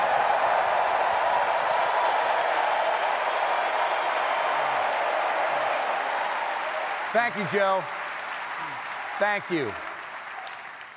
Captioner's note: cheers and applause